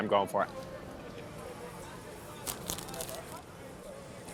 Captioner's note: indistinct crowd chatter